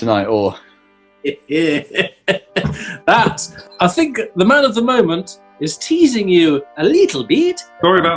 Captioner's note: chuckles